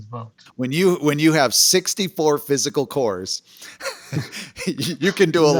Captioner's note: laughs